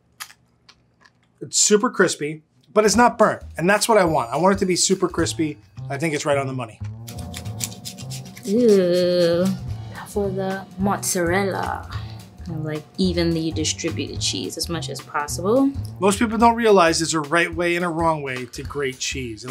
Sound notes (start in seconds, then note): 0.0 ham crunching; 7.0 cheese grating